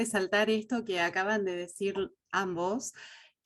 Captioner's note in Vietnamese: Tiếng Tây Ban Nha